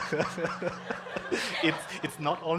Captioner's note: congregation laughing